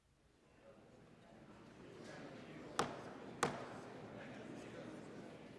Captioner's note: gavel pounding